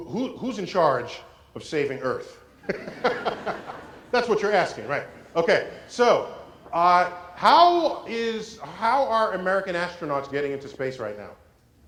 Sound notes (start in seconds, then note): 2.6 laugh